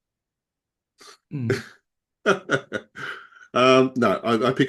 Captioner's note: laughs